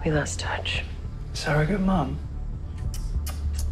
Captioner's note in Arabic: نقر اللسان